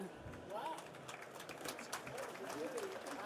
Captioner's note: participants applauding